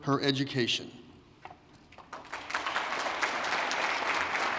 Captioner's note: applause